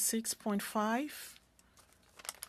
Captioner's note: speaking French